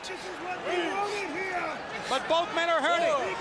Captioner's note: crowd chatter